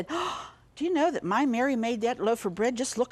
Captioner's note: gasps